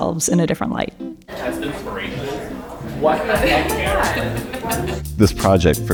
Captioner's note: laughter